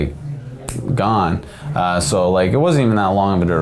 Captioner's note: snapping fingers